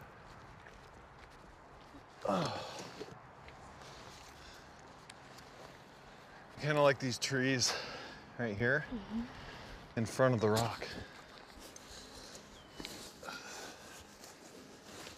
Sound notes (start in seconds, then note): 2.2 groans